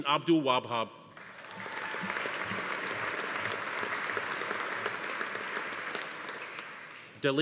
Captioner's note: audience applauding; attendee cheering